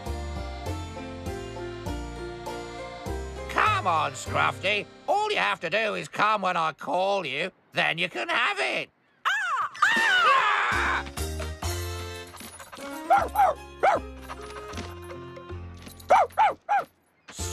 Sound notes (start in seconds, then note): 9.2 seagull Caws; 13.2 barking